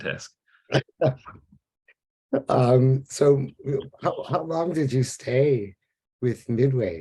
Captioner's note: laughs